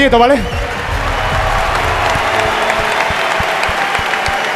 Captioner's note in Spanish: Aplausos y gritos